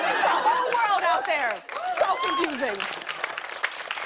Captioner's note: applause